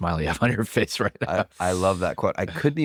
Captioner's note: laughs